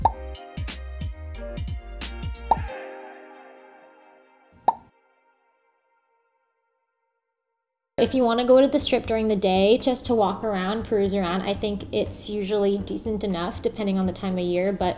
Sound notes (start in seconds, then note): 0.0 popping noise; 2.5 popping noise; 4.6 popping noise